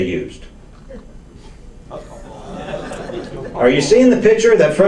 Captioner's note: audience laughs